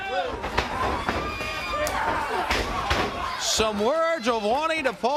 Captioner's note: crowd cheering